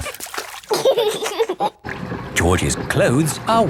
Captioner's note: giggling